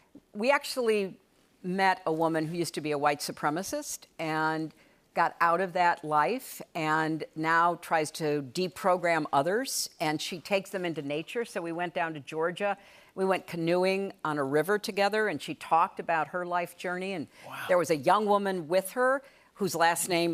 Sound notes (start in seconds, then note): none